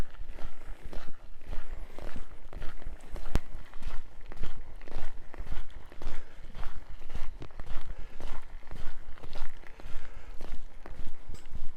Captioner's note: footsteps